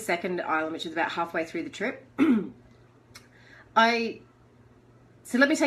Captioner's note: clears throat